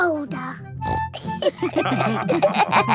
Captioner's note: snorts; all laughing